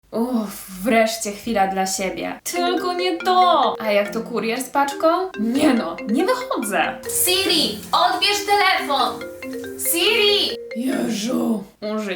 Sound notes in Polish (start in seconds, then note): 1.5 dźwięk dzwoniącego telefonu